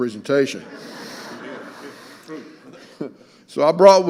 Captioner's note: audience laughing